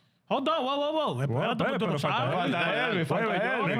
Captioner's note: speaking In Foreign Language